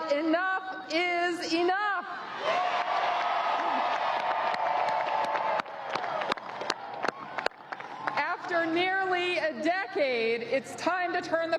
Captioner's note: applause